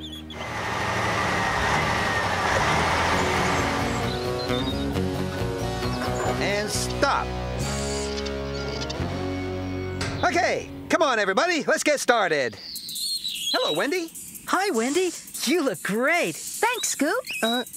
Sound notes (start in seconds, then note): 0.2 engine Running; 3.6 birds Chirping